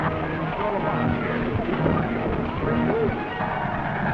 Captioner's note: crowd murmuring